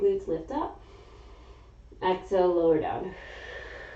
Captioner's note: exhaling; inhaling